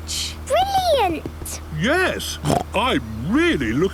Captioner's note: snort